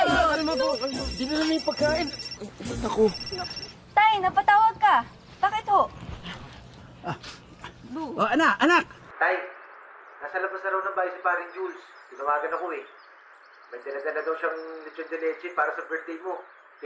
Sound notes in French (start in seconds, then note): 2.8 phone rings